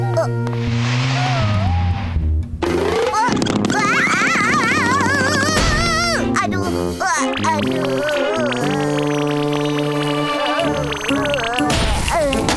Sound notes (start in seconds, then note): 3.2 yelling; 5.6 crushing; 7.0 groaning